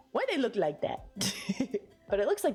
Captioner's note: giggle